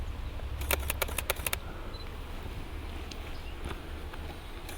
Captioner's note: camera clicking